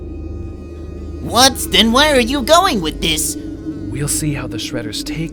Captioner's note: low voice